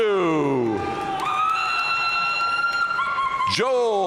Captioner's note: audience cheering and applauding